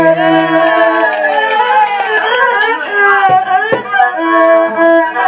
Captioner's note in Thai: ปรบมือ